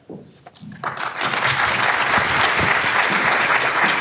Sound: audience applauds

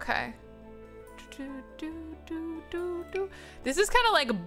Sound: humming

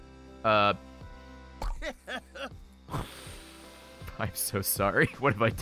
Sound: laughs

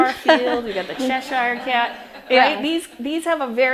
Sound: audience laughs

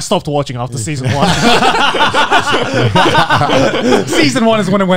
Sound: everyone laughs

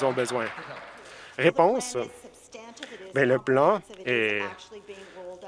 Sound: some Applause

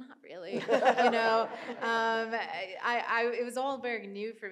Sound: audience and panelists laughing

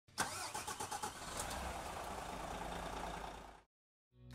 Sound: engine revving

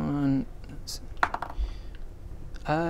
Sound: mathematical muttering

